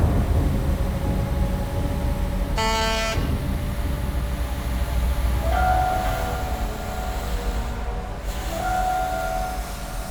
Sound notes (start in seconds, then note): 2.5 horn honks